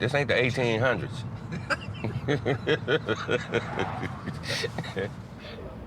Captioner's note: laughter